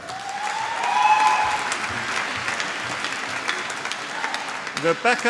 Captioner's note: applause